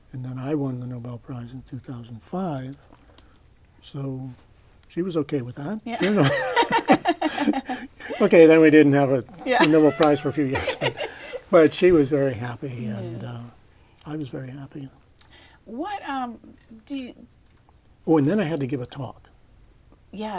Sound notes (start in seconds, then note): 5.9 laughter